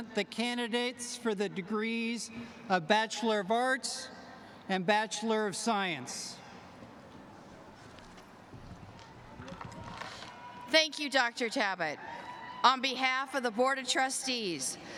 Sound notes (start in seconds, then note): 9.5 applause